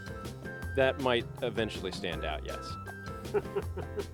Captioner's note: laughing